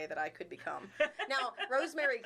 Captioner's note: laughing